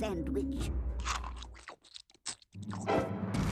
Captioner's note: chomping